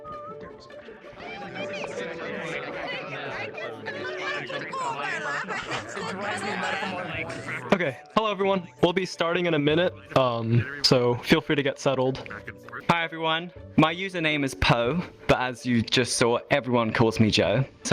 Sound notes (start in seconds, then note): 0.0 whistling; 2.8 chatter